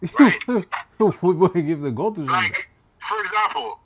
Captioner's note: laughing